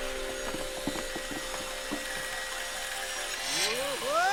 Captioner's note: machinery whirring